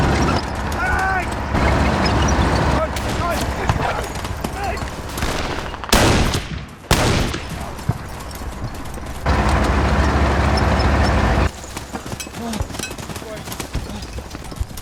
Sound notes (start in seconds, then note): 3.1 gunfire